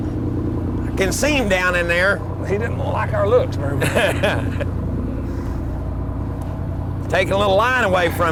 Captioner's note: laughter